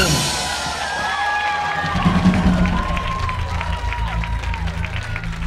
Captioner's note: audience cheering and applauding